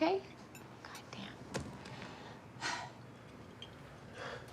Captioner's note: sighs